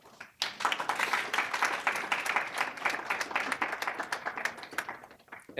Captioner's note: applause